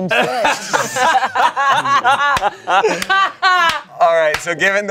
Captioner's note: everyone laughs